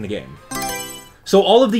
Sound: Mario Selection Sound

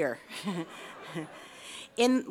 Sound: laughs

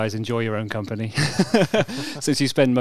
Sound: laughs

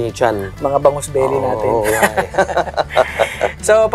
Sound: laughs

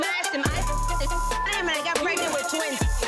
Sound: beep

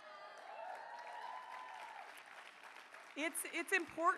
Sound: cheering

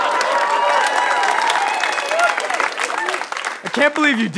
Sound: cheering

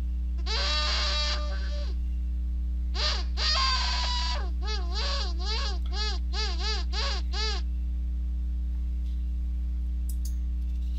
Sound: lower Pitched Noise Maker

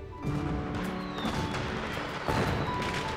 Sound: bursting crackers

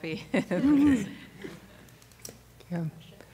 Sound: laughter

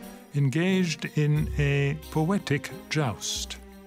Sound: speaks French

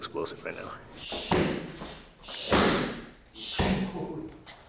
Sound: hand smacks

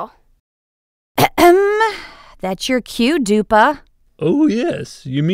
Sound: clears throat

